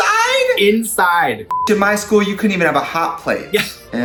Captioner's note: beep